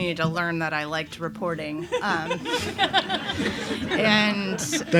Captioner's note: laughs